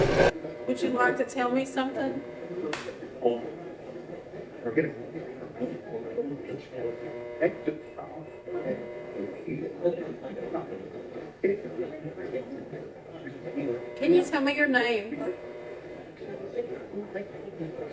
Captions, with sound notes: Would you like to tell me something? [Static noise] [Static noise] Can you tell me your name? [Static noise]